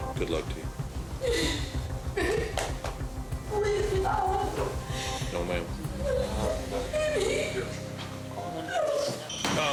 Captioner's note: sob